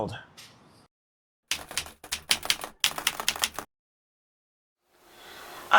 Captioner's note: keyboard keys clicking